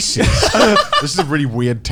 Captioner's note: Garnt laughing